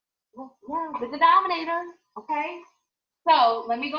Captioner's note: mumbles